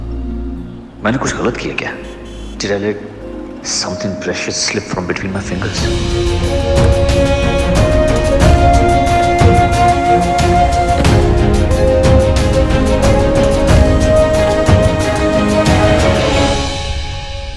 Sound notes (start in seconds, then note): 6.7 Car door opens; 10.8 Car door closes